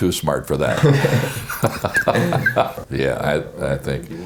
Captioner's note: both laugh